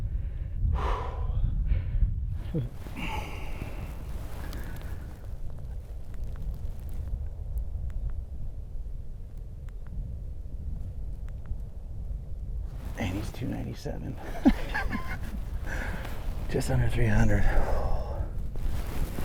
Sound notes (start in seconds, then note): 14.0 laughing